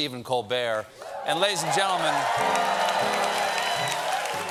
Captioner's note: cheers and applause